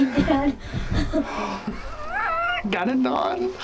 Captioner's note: laughs